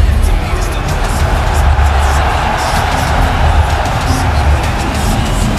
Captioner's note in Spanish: Ovación